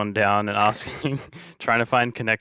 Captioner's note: chuckling